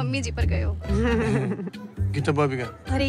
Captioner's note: Both chuckle